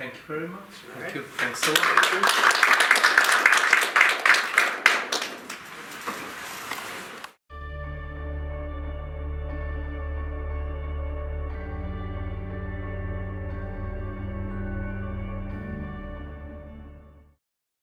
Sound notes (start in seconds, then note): 1.2 applause; 7.8 dreamy music